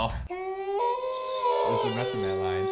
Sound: wolves howling in the background

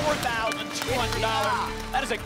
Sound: applause

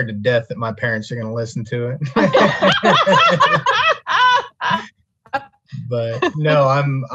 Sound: all laughing

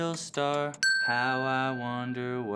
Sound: timer dinging

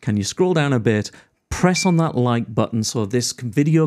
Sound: button pings

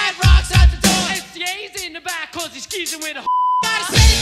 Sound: beep

